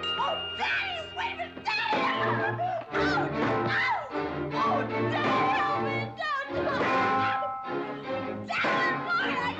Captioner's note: Becky screaming and yelling